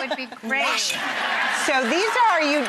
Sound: audience laughs

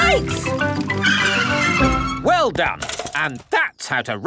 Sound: tires screech

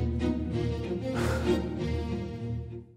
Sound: sighs

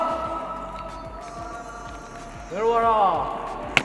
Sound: younger member's faint reply

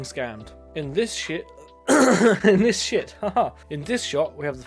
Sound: laughing LAUGHING COUGH

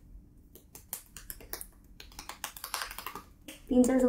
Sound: intense face slapping

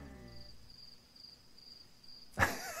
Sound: crickets chirping; laughs

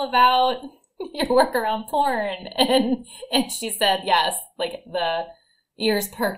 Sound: chuckle

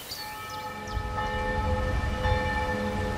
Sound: church bells

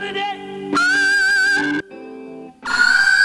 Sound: ahhhhhhhhh

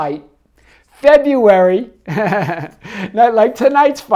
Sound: laughs

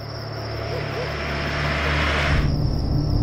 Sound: car speeding

